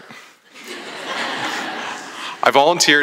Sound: laughter

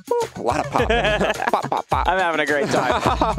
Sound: laughing

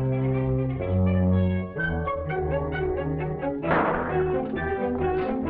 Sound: gun firing in distance

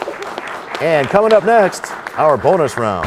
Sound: applause

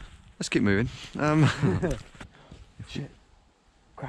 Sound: chuckling

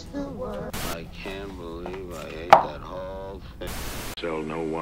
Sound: voiceover

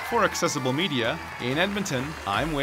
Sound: crowd cheers; voiceover

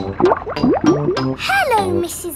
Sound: bubbling

